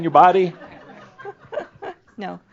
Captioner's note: laughter; chuckles